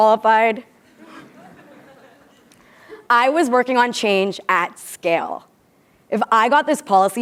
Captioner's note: laugh